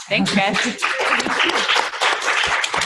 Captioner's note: applause